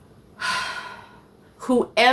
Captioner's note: lady sighs